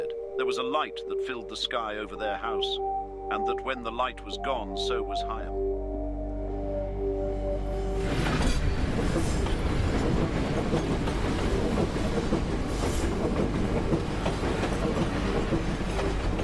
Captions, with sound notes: There was a light that filled the sky over their house. And that when the light was gone, so was Higham (noise of train)